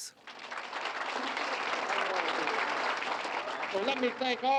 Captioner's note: applause